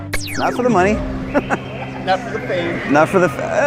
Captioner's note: laughing